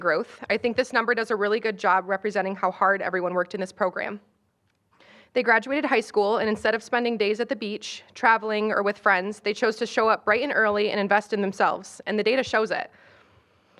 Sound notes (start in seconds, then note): none